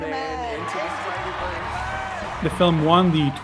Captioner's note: audience applauds